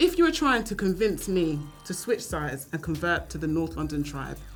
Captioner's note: none